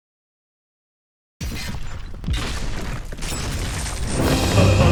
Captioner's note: boulders crashing; theatrical music